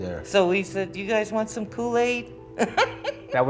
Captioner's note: laughs